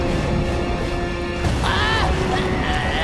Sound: screaming; groaning

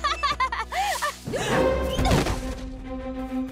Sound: gasps; rustling

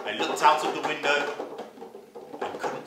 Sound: sound of tapping on a tin box

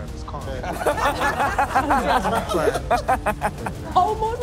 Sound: laughing

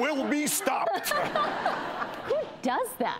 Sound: audience laughs

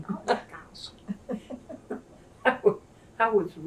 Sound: laughter

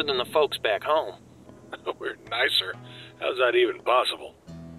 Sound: laughs

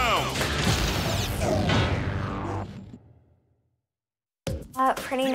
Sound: energetic upbeat music; laser beaming

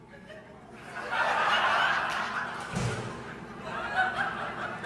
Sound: audience laughing

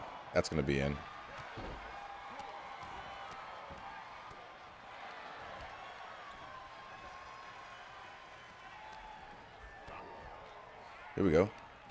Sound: applause

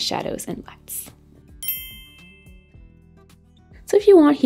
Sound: bell chiming

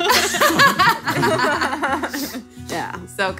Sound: laughing

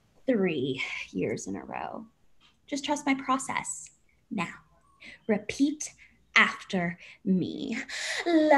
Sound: none

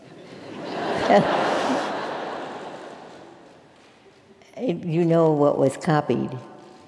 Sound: laugh

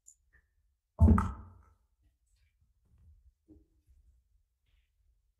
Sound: microphone thumping

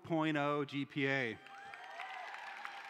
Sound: cheering

